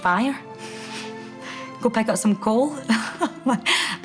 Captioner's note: she chuckles